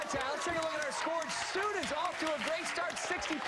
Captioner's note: cheers and applause